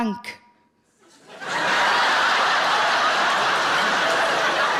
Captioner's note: audience laughing